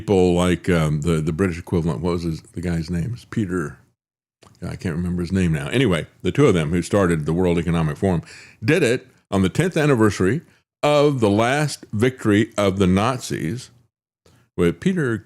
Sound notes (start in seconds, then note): none